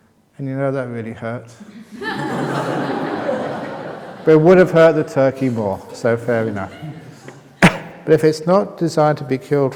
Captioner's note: laughter